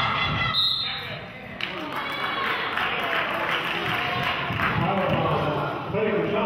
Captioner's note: whistle blows; clapping